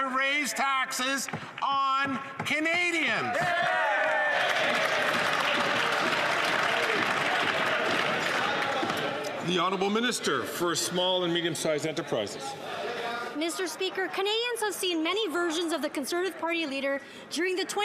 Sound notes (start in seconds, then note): 7.0 some Applause